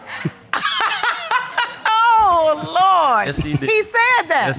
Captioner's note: laughing